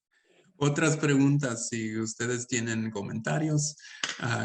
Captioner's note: speaking Spanish